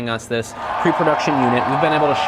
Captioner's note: cheering